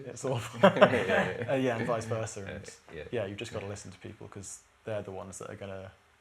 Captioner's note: laughter